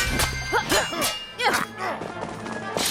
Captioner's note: sword clashing noises; sexual grunting noises